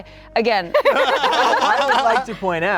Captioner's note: everyone laughing